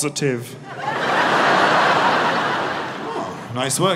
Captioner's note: audience laughing